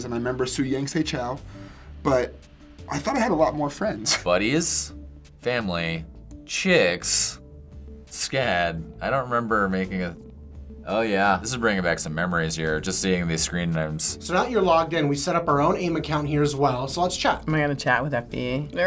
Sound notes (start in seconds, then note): 3.8 chuckles